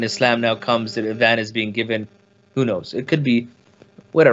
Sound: speaks in foreign language

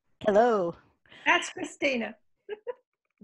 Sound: laughs

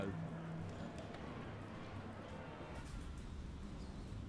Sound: people chattering; wind blows vehemently

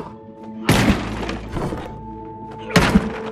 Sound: bangs

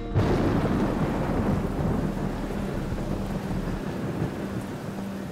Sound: thunder booming; rain splattering

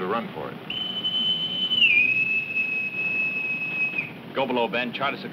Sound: whistle blowing

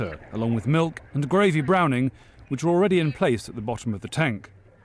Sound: none

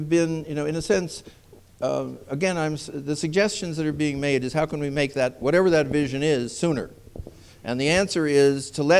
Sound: none

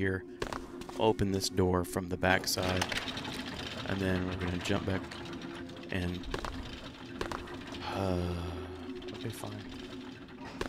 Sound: sighs

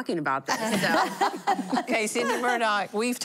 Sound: laughing

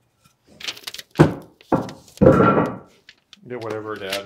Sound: wood thumping

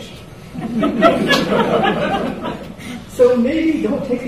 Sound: audience laughs

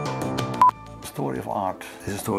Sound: electronic beep

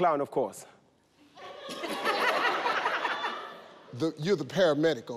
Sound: audience laughing

